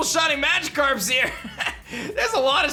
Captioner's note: laughs